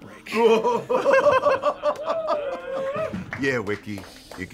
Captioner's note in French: rires